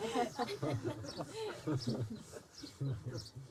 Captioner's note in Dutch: gelach